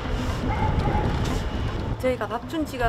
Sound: wind blowing

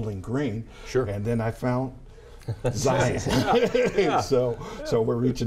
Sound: laughs

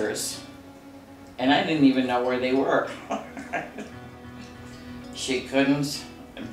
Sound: chuckles

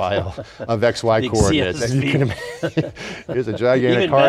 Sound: laughs

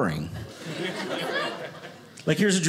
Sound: audience laughing

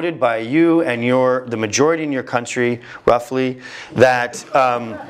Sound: laugh

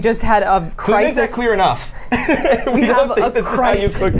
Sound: laughs

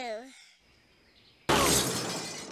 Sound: crash

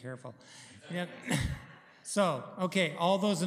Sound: laughter

